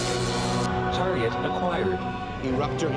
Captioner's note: computer voice